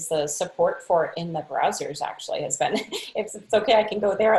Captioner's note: laughing